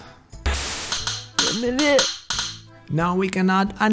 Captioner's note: hit sounds